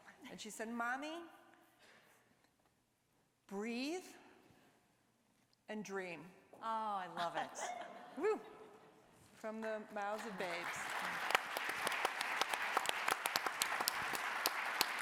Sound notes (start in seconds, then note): 10.1 applause